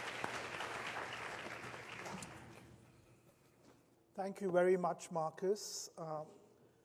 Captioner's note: applause